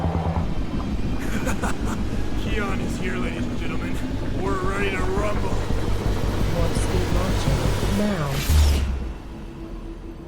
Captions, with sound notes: (Keon laughing) - Keon is here, ladies and gentlemen. - We're ready to rumble. - Warp speed launching now.